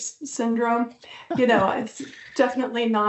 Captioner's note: laughs